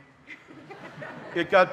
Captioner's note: audience laughing